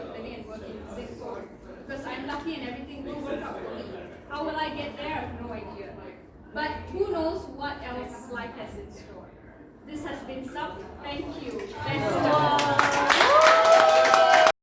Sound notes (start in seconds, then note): 11.5 applause